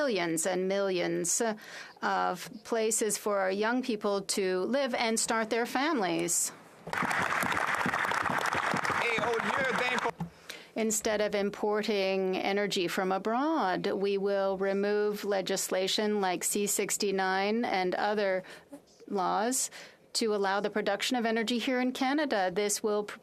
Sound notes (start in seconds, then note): 10.6 applause